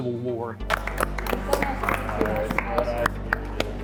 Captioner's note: applauding